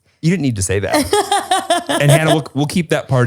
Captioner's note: laughs